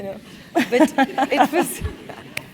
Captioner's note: laugh